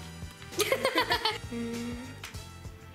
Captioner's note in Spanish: Ambos ríen